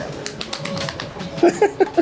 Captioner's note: hands smacking; laughing